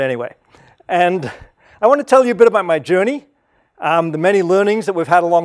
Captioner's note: laugh